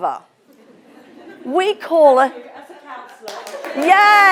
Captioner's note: audience laughing; audience applauding